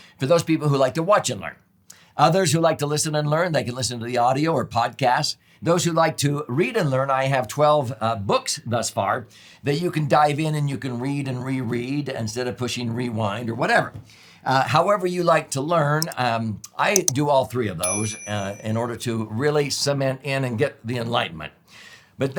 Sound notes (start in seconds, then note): 16.9 mouse clicks; 17.8 bell chimes